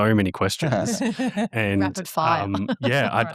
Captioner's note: participants laughing